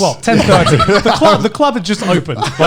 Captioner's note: Conner and Joey laughing